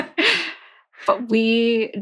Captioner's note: laughing